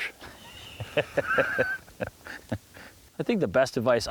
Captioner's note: laughs